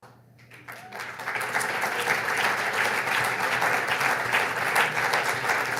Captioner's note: audience applauds